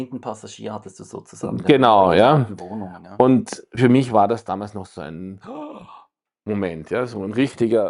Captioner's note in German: japst